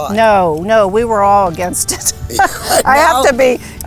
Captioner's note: laughing